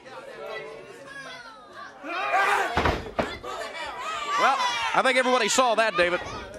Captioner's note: crowd chatter